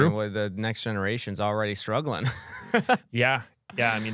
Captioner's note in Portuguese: risos